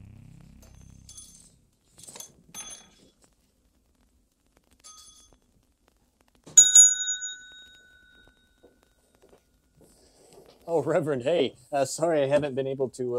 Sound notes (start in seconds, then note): 1.0 door bell jingling; 6.6 bell dinging